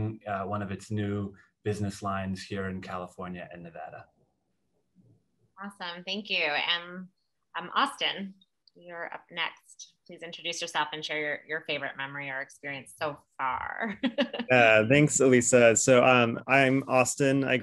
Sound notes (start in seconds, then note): 14.0 laugh